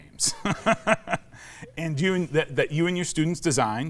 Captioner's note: laughs